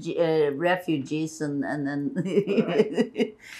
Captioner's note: laughing